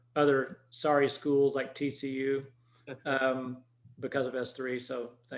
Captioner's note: chuckles